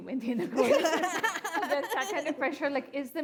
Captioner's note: laughs